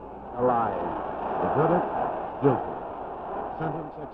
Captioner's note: crowd murmuring